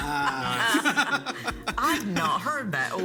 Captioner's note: people laugh